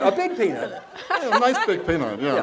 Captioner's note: laughs